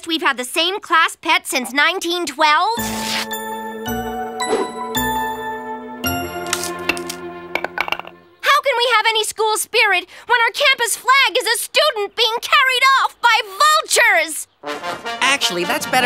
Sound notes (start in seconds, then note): none